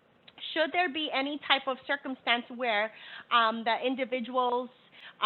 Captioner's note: none